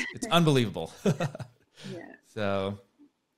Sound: laughs

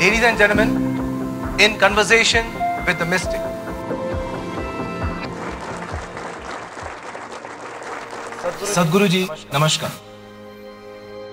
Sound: applause

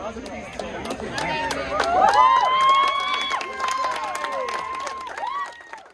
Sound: applause, cheering

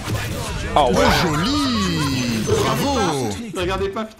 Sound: laughter

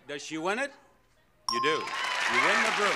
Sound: bell rings

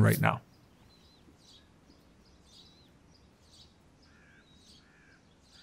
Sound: birds chirping

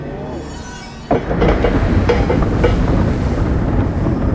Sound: mechanism moving

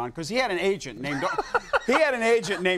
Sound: Conan chuckling

